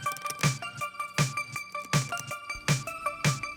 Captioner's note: scratchy Fastener Sounds